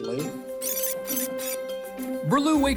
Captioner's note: tape fast-forwards